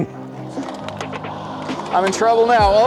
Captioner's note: pop can crunches more